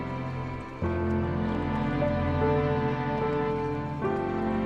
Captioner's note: water splashing